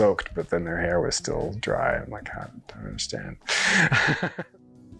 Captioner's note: laughs